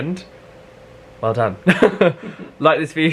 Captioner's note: laughs